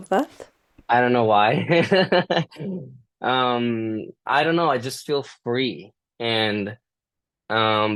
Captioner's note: laughter